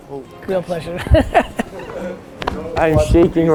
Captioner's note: laughs